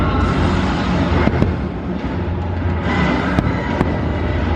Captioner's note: fireworks exploding